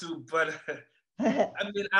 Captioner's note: both laughing